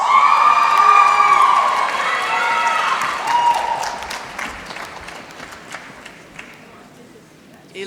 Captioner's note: applause